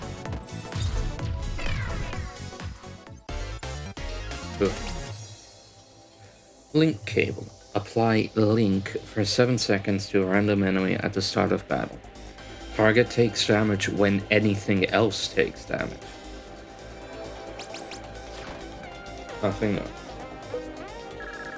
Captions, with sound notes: *phew* Link Cable. Apply Link for 7 seconds to a random enemy at the start of battle. Target takes damage when anything else takes damage. Nothing new.